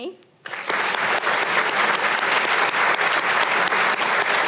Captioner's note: audience applauding